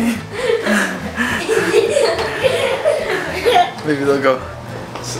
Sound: boys laughing

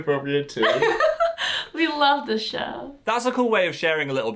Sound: laughs

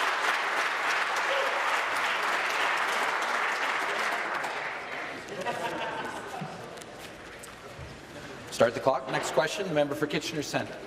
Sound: applause

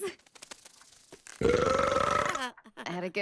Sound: belching

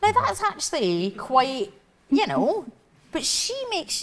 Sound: none

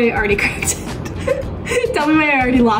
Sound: laughs

